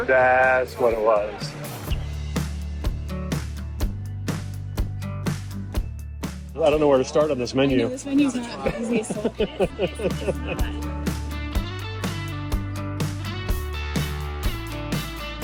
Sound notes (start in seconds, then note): 2.7 upbeat music continues; 8.5 laughing; 11.9 upbeat music continues